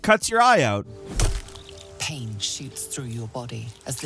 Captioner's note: eye squelches